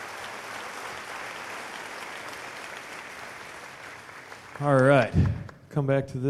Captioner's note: cheers/applause